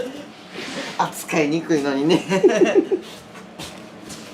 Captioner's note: laugh